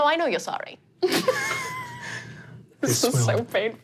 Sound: laughs

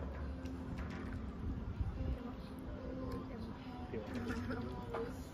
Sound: haha

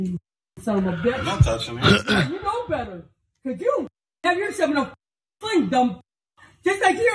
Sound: cough

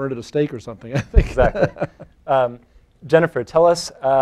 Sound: chuckles

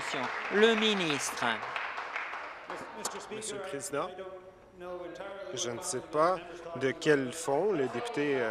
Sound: applause

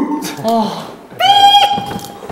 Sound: whistling

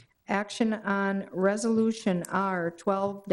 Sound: none

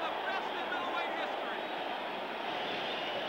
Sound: cheering and applause

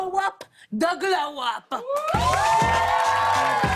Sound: cheers and applause

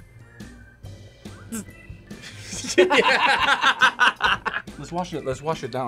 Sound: both laugh

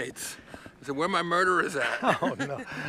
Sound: laughs

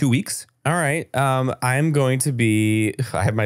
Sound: foreign language

